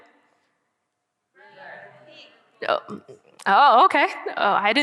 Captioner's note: audience chattering